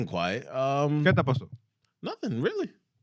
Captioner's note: speaking Spanish